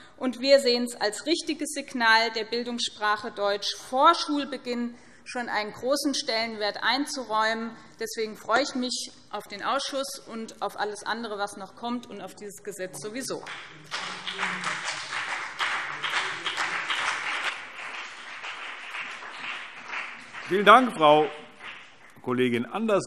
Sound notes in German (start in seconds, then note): 13.2 Beifall BÜNDNIS 90/DIE GRÜNEN und CDU